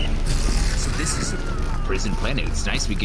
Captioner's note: yelling, whistle sounds